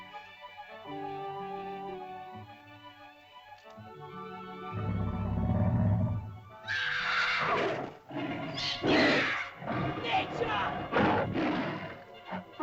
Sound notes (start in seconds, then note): 0.0 whimsical music; 4.7 dinosaur growls; 6.6 dinosaur snarls; 6.6 girl screams; 8.5 dinosaur growls & snarls; 8.5 shouting in caveman language